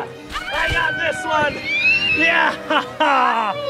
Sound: Adley screaming

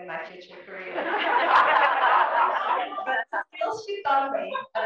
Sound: laugh

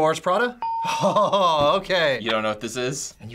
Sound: hitting bell; ding

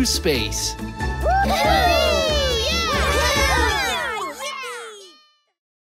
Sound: everyone cheers

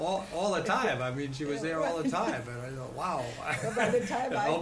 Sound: laughter

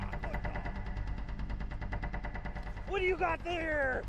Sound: voiceover

